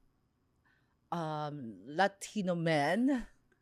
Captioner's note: none